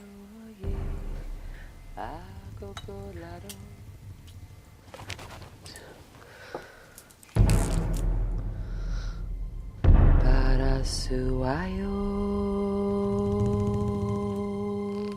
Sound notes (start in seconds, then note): 0.3 singing – different language; 3.7 whispering